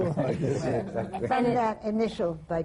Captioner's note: laughter